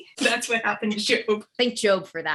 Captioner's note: laughing